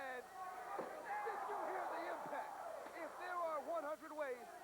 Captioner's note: crowd cheering